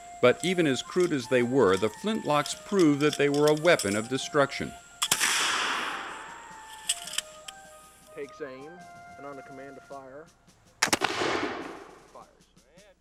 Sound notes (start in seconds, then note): 5.1 gunshot; 10.8 gunshot